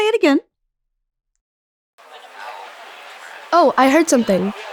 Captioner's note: general chatter